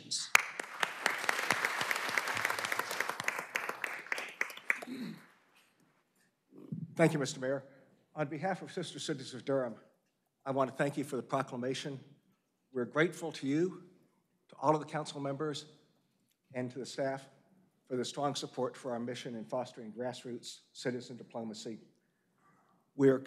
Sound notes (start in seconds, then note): 4.5 applause